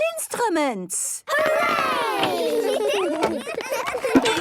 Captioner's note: excited giggling